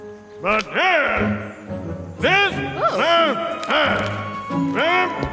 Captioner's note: Pharaoh speaks in angry gibberish